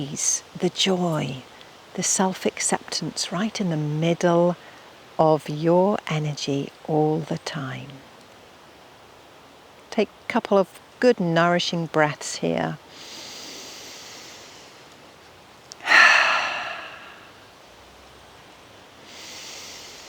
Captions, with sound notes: the joy, the self-acceptance right in the middle of your energy all the time. Take a couple of good nourishing breaths here. (inhaling and exhaling)